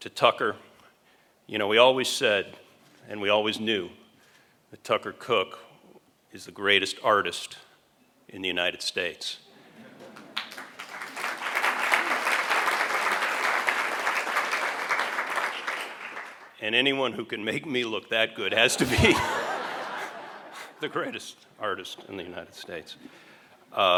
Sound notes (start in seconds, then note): 10.1 applause